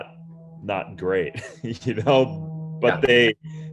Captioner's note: giggles